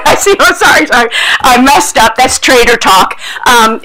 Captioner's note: laughs